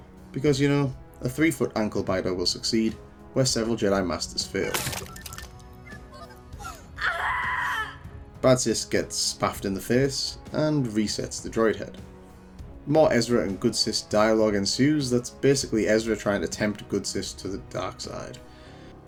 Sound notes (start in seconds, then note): 6.5 scream